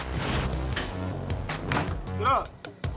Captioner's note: bang